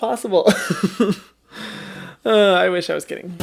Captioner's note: laughing